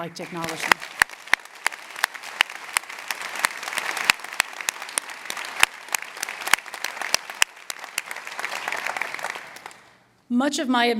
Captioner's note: applause